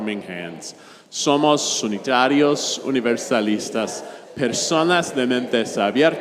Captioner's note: congregation speaks in Spanish